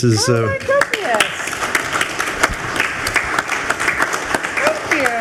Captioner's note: group applauds